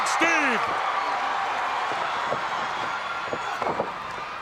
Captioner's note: crowd cheering